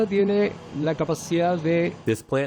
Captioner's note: through translator